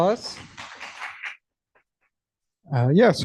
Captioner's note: applause